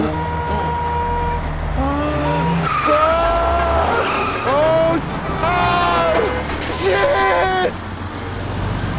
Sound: moaning

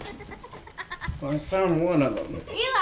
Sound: Annie Laughing

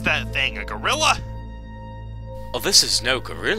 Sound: rumbling noises

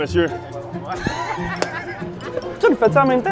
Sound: laughs

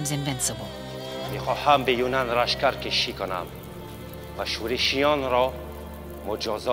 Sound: King Darius speaking in foreign language

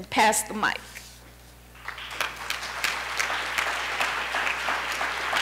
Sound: applause

